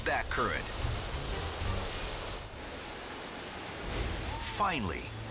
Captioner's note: waterfall rushing